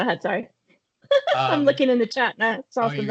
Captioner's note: laughing